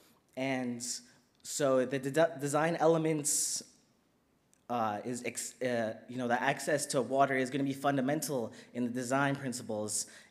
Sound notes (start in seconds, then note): none